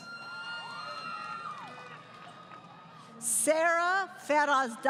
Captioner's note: crowd Cheering